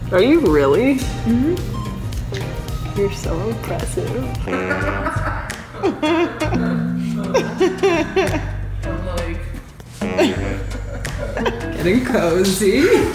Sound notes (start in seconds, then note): 4.7 lounge music; 7.4 laughing